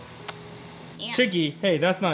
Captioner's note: kissing